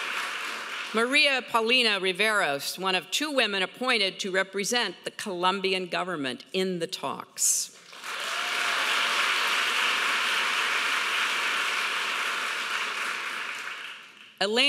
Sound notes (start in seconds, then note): 7.8 audience applauding